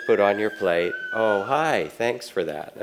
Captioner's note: child screams